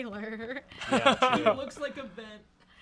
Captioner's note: laughs